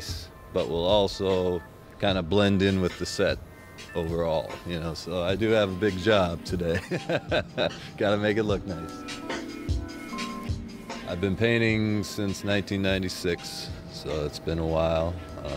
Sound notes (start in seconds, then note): 6.6 laughs